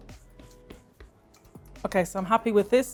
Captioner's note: hands tap